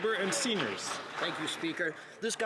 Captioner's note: some Applause